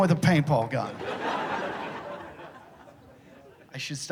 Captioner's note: laughter